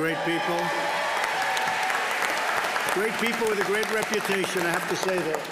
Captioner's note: applause